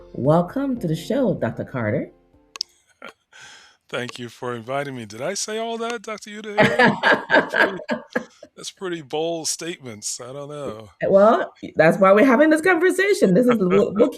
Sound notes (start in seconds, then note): 6.7 laughing